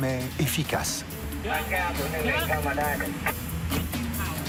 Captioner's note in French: Audio parlé en langue étrangère